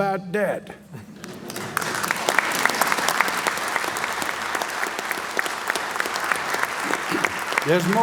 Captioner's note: applause